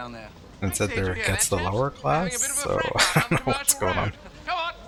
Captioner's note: chuckling